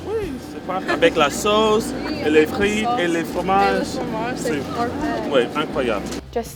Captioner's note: speaking french